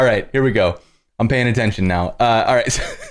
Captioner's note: laughter